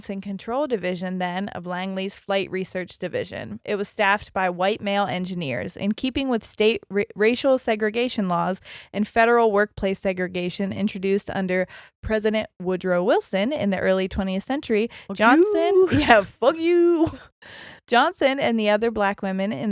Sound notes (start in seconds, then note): 15.2 chuckles